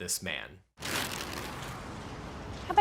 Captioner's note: paper rustles